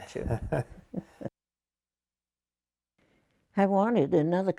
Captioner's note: laughing